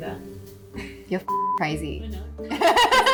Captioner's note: beep; laughs